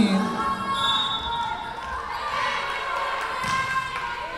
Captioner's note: whistle blowing